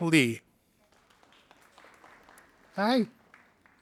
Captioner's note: audience applauding